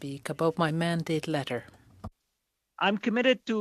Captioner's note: speaking French